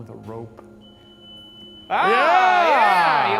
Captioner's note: light beeps